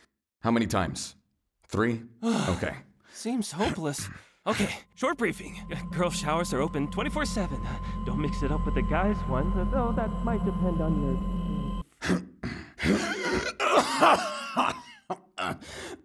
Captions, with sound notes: How many times? Three? - Okay. [Elijah sighs] Seems hopeless! Okay! Short briefing. Girl's showers are open 24/7. [audio becomes muffled] Don't mix it up with the guy's one, although that might depend on your.... [Anthony grunts] [gasps and coughs]